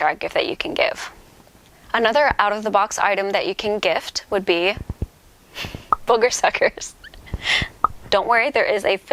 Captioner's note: laughs